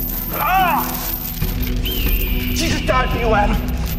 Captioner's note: chains rattling; Nick moaning